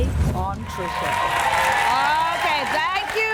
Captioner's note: applause